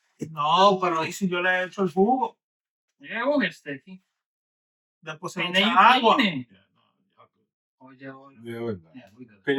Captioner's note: speaking In Foreign Language